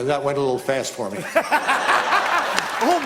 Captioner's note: laughter